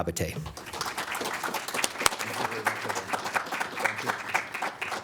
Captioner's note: crowd applauds